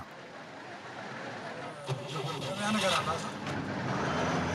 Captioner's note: car engine starting